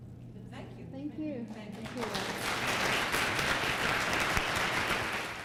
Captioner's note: applause